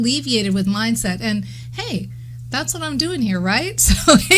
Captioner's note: chuckles